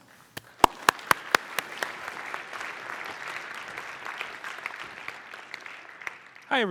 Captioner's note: applause